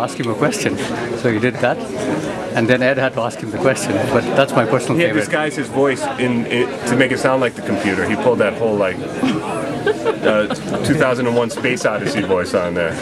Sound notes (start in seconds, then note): 9.0 background laughter